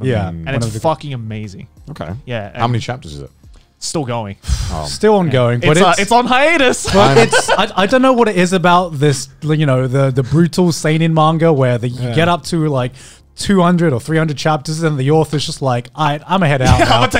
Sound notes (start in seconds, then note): 4.3 sighs